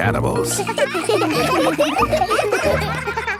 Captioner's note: children laughing